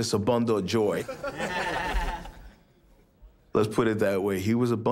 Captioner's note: laugh